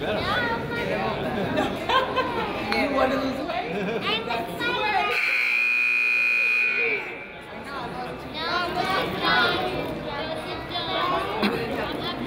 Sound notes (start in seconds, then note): 5.1 buzzer honks; 5.5 crowd chatters